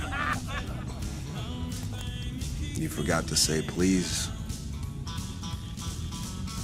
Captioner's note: laughter